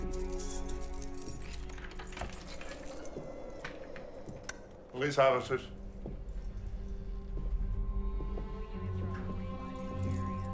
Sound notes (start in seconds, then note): 0.0 keys jangling; 0.4 suspenseful music; 2.5 door latch clicks; 4.5 light switch clicks; 7.2 suspenseful music